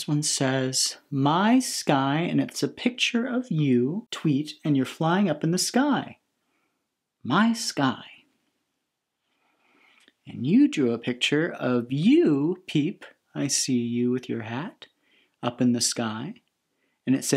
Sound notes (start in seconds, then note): none